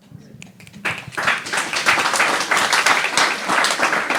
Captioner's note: applause